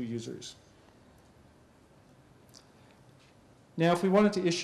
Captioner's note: pause